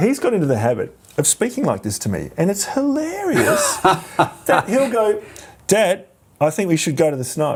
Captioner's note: laughs